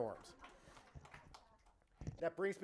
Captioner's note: clapping